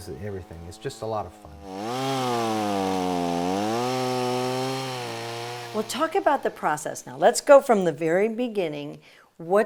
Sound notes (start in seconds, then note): 2.5 chainsaw buzzing